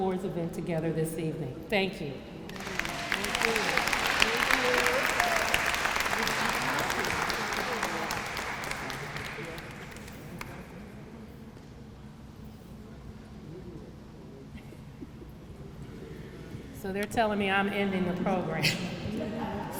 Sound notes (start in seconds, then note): 2.4 applause